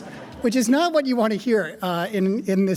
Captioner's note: audience laughing